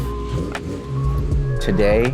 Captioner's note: engine hums